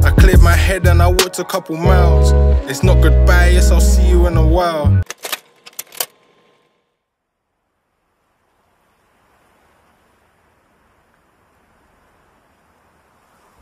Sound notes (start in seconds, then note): 5.0 clicking; 9.0 rustling leaves